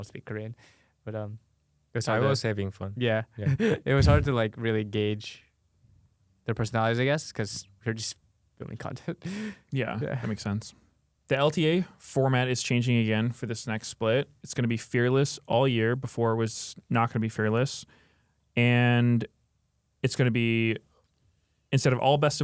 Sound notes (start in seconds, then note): 3.4 laughs; 9.2 laughs